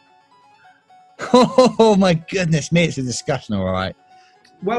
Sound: chortling

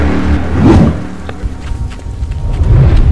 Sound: sound of running

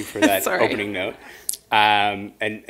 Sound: chuckle

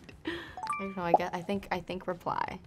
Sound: chiming

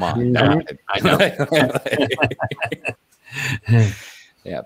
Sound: laughing

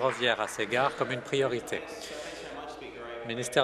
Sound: applause

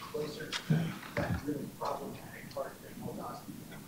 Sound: speaks faintly; speaks faintly

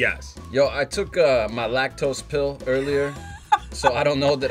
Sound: laughs

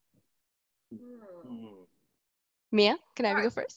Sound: thinking sounds

